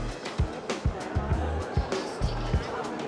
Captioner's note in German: Stimmengewirr